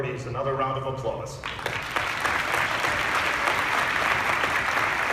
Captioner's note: applause